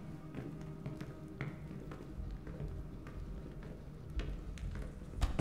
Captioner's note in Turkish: Ayak sesleri